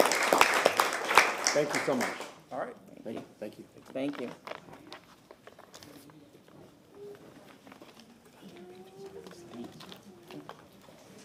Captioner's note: applause